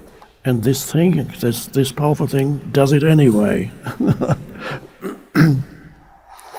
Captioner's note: laughs